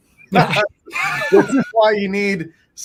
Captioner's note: all laughing